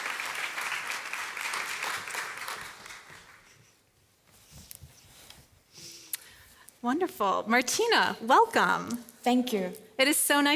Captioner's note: applause